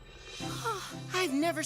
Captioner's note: Cameron Gasping